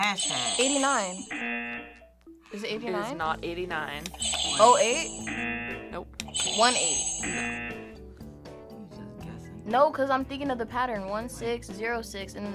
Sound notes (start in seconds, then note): 0.1 buzzer rings; 0.2 buzzer; 4.2 buzzer rings; 4.2 buzzer; 6.3 buzzer rings; 6.3 buzzer